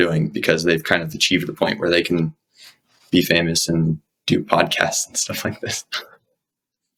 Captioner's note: laughs